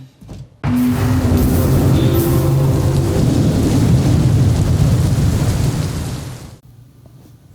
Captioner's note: storm and electrical noises